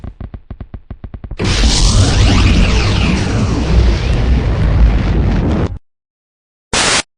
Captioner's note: reversed